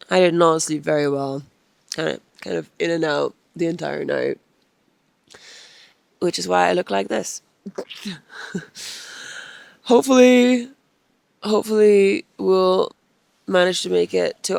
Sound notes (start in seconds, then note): 9.1 laughs